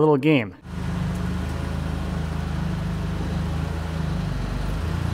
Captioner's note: engine purring